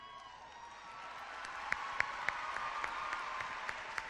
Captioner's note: clapping